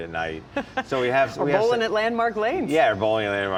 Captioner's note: laughing